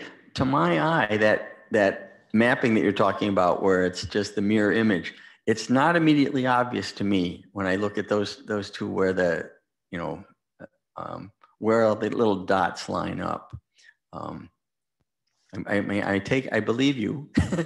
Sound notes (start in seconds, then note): 17.4 laughs